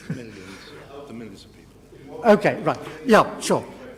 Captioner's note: laugh